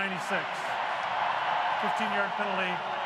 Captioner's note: cheering